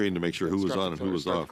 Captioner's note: laughing